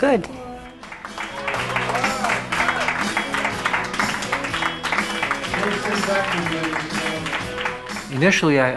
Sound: applause

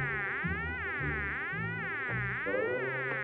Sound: buzzing noise

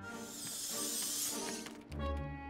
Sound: light mischievous tones; robotic whirring

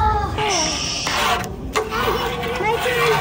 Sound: skateboard clattering

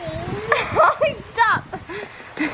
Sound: laughs

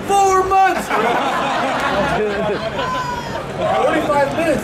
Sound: audience laughing

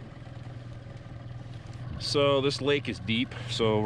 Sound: boat engine idling

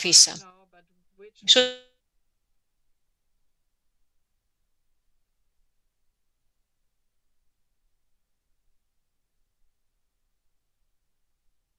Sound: sound interruption

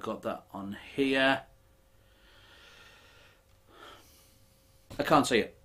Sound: sighing

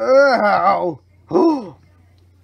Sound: customers gasp again

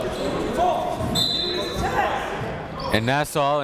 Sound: whistle blows

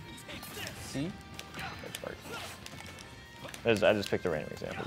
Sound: Richter grunts

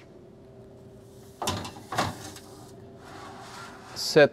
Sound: oven clanking

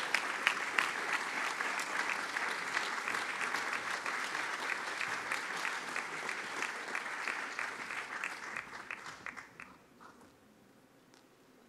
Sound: applause

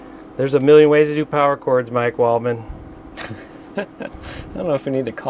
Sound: laughing

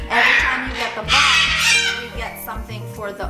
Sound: bird squawking very loudly

